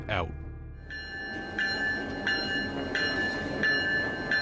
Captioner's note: bell ringing